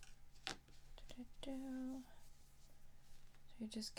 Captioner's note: singsong